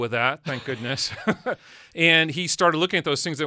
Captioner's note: laughs